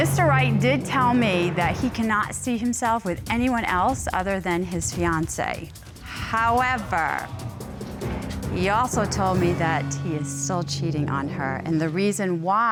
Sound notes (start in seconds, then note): none